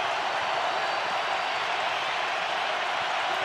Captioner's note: crowd cheering